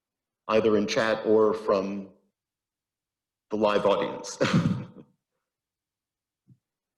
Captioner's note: laughs